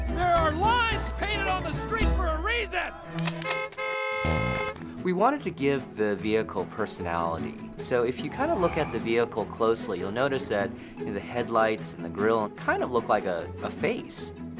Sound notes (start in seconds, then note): 3.4 car beeps horn